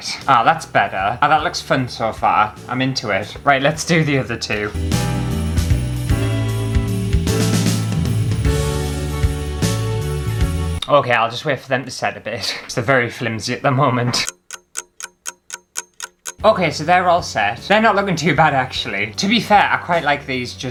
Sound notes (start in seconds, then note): 3.5 christmas Music; 14.2 clock Ticking